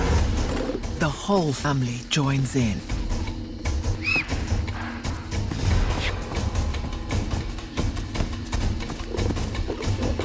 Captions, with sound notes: The whole family joins in. (squealing) (growling)